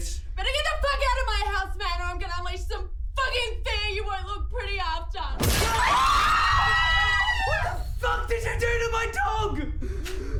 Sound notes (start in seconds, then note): 5.3 threatening music; 5.4 crash